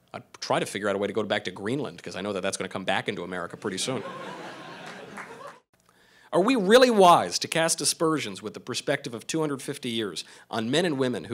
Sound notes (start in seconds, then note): 3.6 crowd laughing